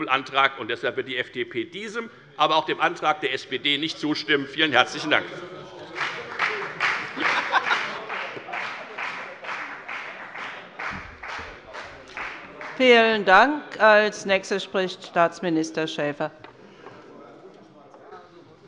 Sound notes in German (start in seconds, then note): 5.8 Beifall bei der FDP